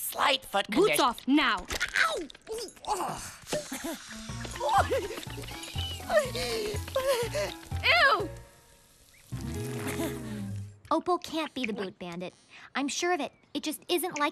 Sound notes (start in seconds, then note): 6.0 whining